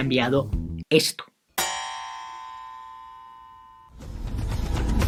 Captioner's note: chime from an elevator